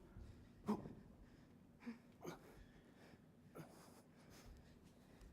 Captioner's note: both gasping